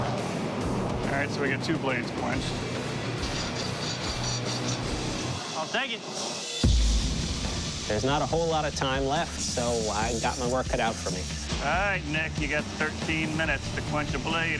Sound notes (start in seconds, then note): 2.7 scraping